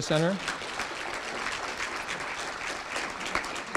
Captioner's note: applause